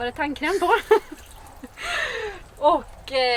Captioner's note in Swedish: Skrattar